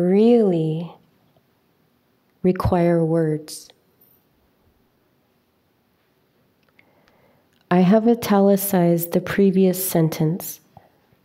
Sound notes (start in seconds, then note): none